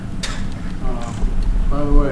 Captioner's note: laughs